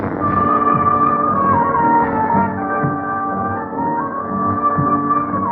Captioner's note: thunder